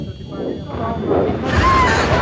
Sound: electronic warbling quickens; thunder rumbling; lightning cracking; passengers screaming

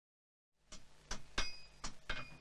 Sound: the sound of hammering

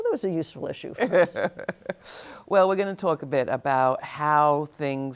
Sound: laughs

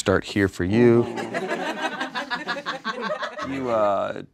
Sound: audience laughs

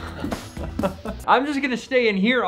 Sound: laughing

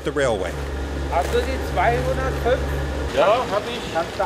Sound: foreign language

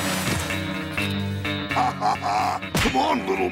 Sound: laughing

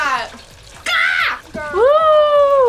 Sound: screams

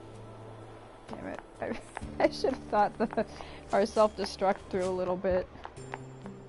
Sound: laughs

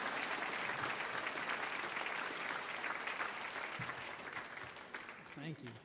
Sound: audience applauding

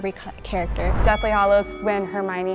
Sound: bell dings

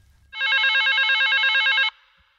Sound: phone rings

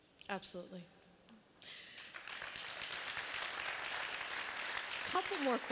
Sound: applause

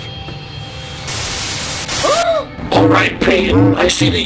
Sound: static noise

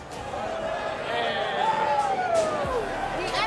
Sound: fans cheering

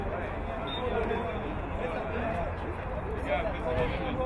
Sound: whistle blowing

